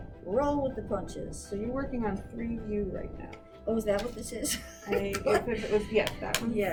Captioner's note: laughs